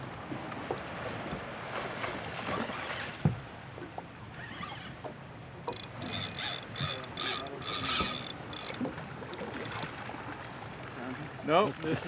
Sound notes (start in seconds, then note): 0.0 reel cranking; 1.4 fish splashing; 5.6 reel cranking